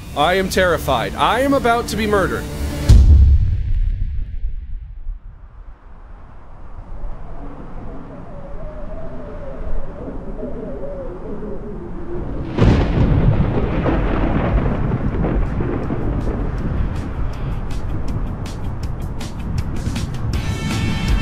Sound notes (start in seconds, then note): 12.4 thunder crashes